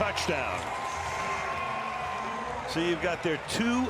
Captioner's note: cheers